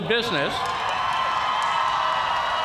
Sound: cheers and applause

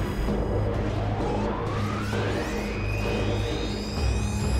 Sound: powering up

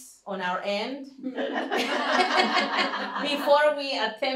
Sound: laughter

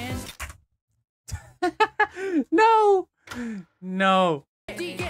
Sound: chuckles

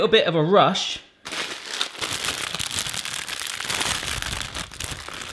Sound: plastic crinkling

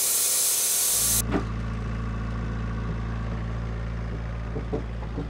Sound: forklift engine roaring

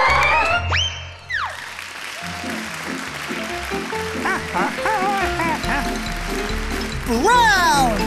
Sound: applause

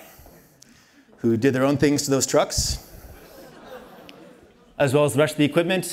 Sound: laughter

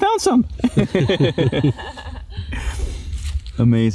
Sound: laughing

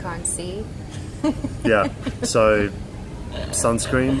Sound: laughing

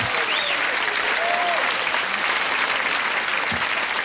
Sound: applauding

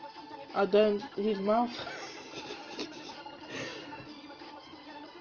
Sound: laughs

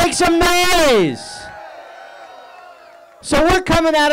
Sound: audience cheering

